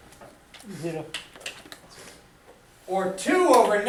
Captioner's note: voiceover